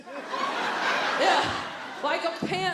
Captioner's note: audience laughing